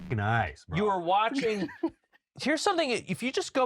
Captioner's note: giggles